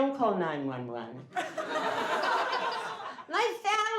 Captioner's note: laughing